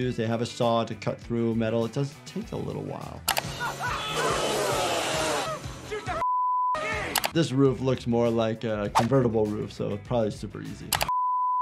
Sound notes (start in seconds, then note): 3.4 people screaming; 6.2 beep